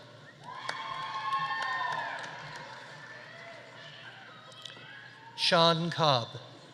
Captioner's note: audience applauding; audience cheering